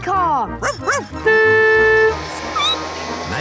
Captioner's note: barking; squeaking; honking